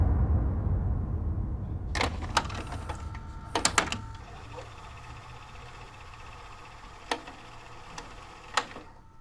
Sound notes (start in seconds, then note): 2.0 video tape clattering; 3.8 VCR whirring